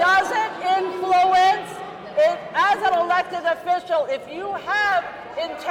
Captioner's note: crowd booing